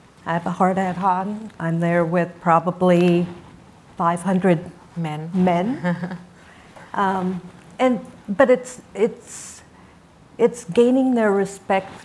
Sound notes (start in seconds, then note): 5.7 laughs